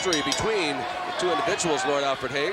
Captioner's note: bells ringing